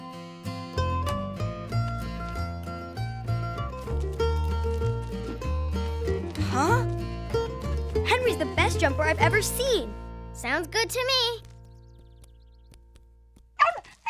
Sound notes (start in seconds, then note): 9.3 barking